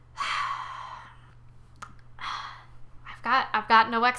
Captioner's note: sighs; sighs again